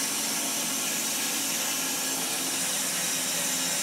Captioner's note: saw whirring